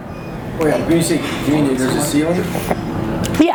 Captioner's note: mutters